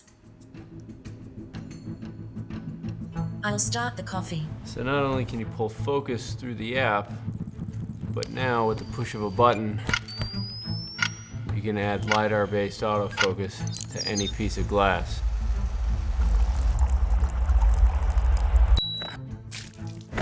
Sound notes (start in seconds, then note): 7.0 soft electronic whooshing; 10.1 high-pitched whine; 15.4 soft trickling; 15.4 whirring; 19.5 splash